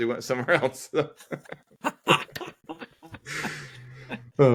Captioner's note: laughing